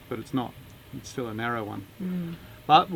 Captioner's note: none